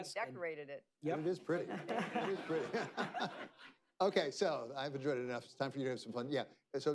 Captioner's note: laughter